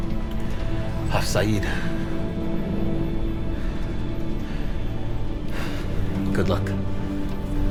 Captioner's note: Ra speaking in foreign language